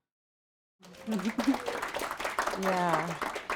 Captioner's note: applause